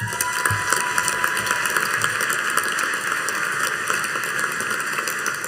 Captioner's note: audience cheering and applauding